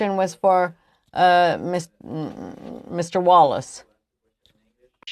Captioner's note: speaking French